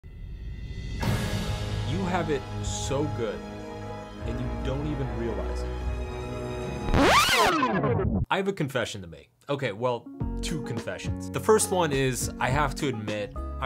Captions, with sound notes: (intense music) - You have it so good, and you don't even realize it. (tape rewinding) I have a confession to make. Okay, well, two confessions. The first one is I have to admit,